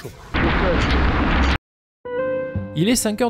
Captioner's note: heavy rain